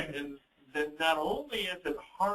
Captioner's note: laughs